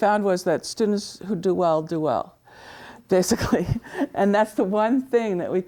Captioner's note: laughs